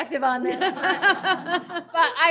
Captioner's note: laughter